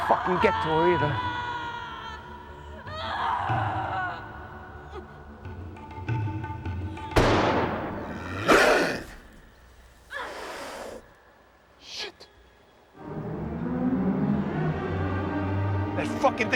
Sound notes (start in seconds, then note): 3.3 Banta screams; 3.3 tense music; 7.1 gun bangs; 8.1 growling; 12.9 tense eerie music